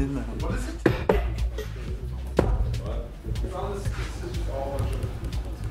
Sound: camera knocks into things

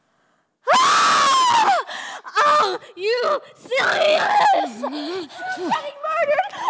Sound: Aveline screams

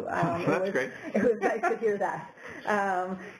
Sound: laugh

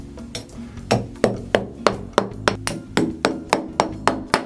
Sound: hammer banging

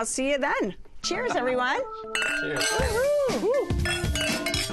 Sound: whooping

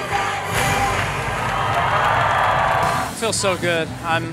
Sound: applause

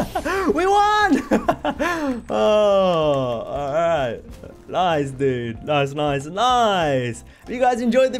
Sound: laughs

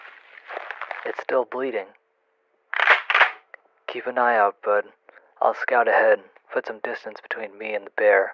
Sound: pumps shotgun

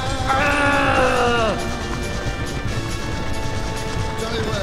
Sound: groaning

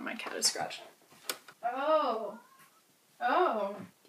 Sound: exclaims; cat meows

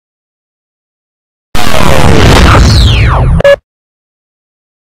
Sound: digital winding down and beeping continuing

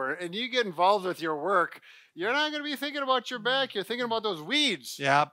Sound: none

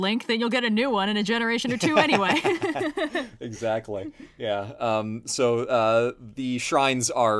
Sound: laughs

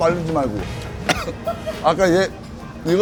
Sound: starts choking on something

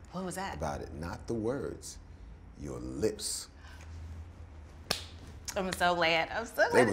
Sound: slaps knee

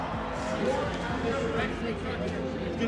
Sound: indistinct chatter

